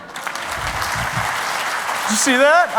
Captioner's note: applause